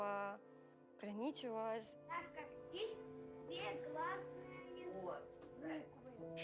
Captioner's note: children speaking Russian